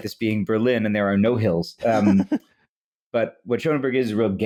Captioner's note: laughs